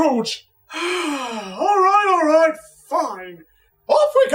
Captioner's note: defeated sigh